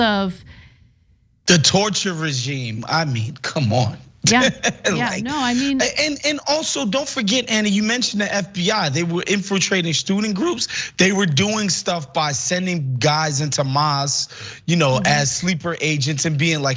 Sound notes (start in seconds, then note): 4.3 laugh